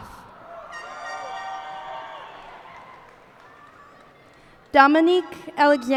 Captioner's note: cheers and applause